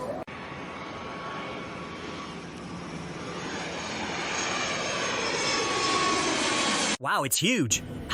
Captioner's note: airplane taking off